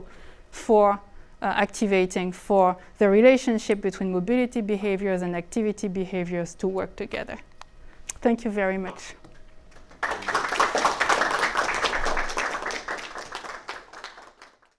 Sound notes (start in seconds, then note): 9.7 audience clapping